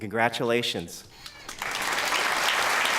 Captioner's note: applause